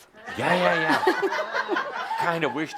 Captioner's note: laughter